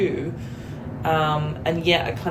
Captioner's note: rumbling sound